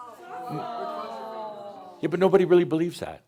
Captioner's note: audience says “Ohhh!” as the screen comes on